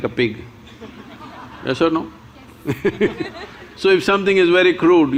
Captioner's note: laughs